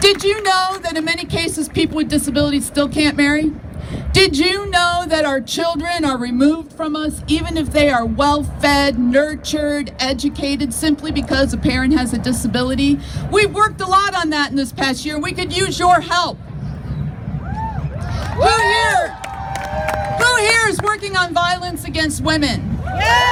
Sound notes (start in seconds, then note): 17.4 crowd cheers; 22.8 crowd cheers